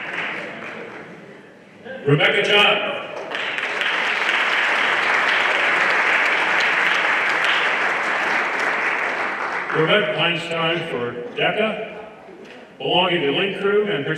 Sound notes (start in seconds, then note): 3.1 everyone applauding